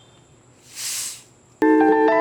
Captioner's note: fizzes